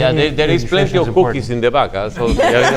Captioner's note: audience laughs